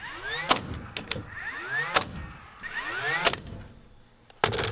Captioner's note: nail gun popping